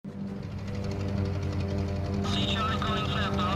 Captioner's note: engine rumbles